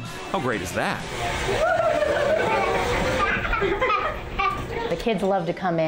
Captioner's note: children laughing